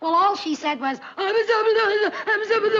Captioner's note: imitates sobbing